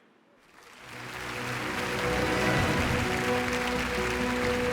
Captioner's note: audience applauds